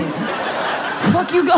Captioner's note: crowd laughing